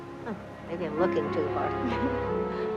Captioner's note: chuckles